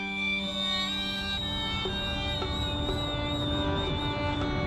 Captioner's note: high-pitched whistling